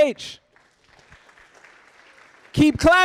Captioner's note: audience applauding